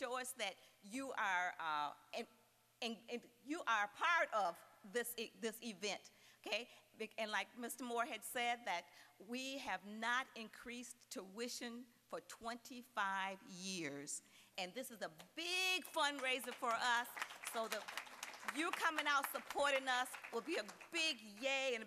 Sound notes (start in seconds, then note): 16.0 applause